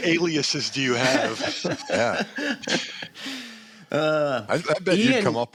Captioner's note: laughter